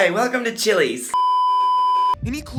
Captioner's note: beeeeeeeeeeeep